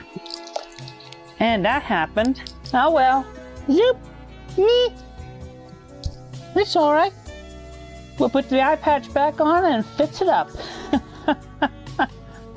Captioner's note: laughter